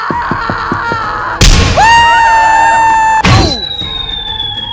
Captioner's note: An aggressive punch sound can be heard as Mr Saturn screams